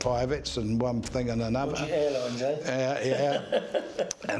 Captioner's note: laughs